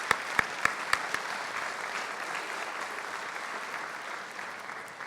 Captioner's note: applause